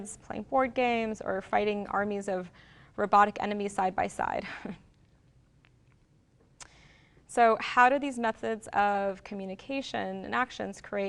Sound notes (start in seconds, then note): 4.9 chuckles